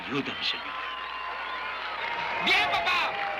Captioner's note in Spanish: aplausos